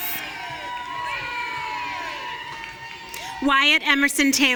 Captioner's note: audience cheering